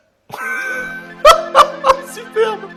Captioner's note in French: rires